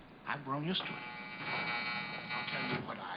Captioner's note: door buzzing